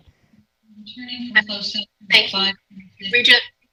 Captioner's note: audio glitch